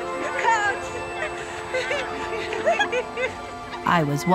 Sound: all laughing

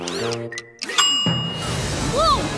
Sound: ding

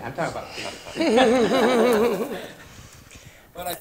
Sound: laughter

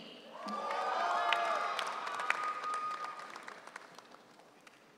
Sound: audience cheering

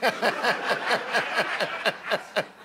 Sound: laughter

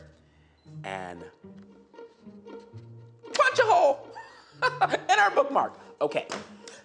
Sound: laughing

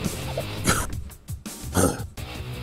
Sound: cough

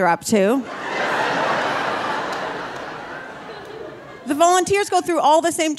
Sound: audience laughing

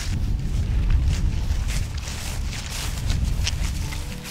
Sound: grass rustling

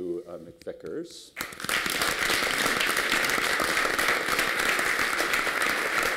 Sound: applause

